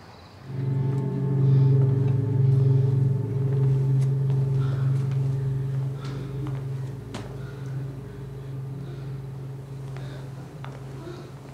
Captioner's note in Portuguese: Gemidos